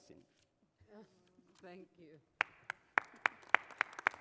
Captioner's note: applause